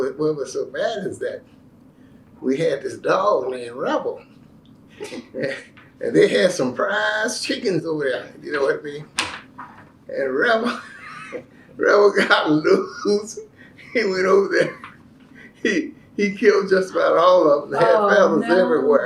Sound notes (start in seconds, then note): 11.8 laughs